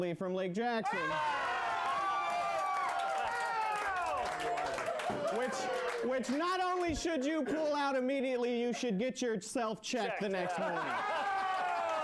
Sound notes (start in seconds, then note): 5.8 audience cheering